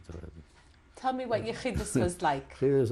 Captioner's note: non-english